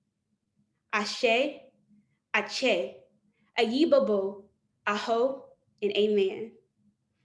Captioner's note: non-english speech